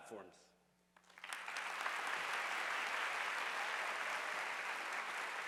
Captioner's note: audience applauding